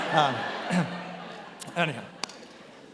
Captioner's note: attendees laughing